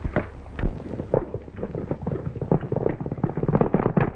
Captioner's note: horses galloping